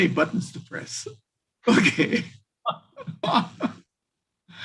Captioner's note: laughing